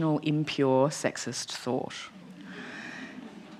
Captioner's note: laughter